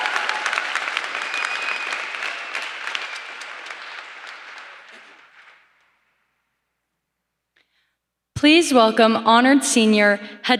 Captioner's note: applause